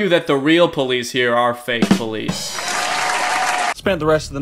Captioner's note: badum-tss; cheering